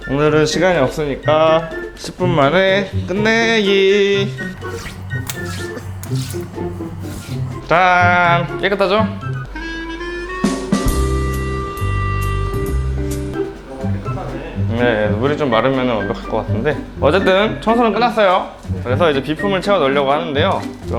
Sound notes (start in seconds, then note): 4.2 draining